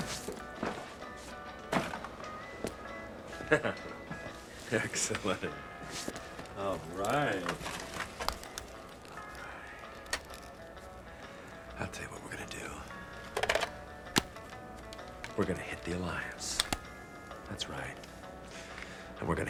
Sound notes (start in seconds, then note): 3.3 Drake chuckles